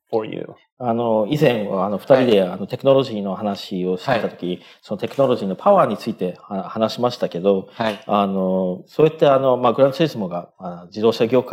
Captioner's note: speaking japanese